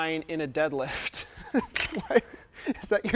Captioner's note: laughing